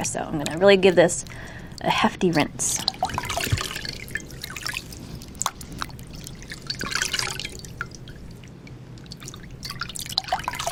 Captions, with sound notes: So, I'm gonna really give this a hefty rinse. [water splashing]